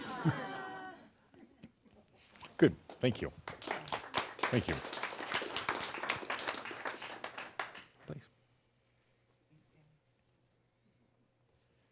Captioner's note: more chuckles; applause